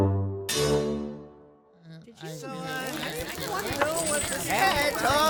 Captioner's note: Kobolds talking